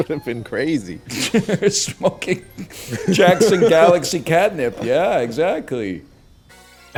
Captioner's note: in a wheeze; laughs